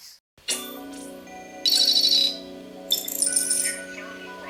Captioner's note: futuristic sounds